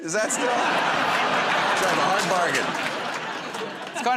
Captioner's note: laughter